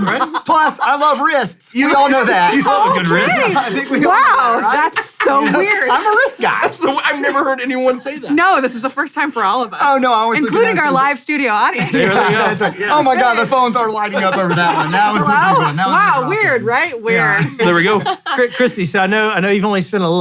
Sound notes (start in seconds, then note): 11.7 all laugh; 17.2 laughs